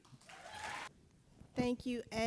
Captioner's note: audience applauding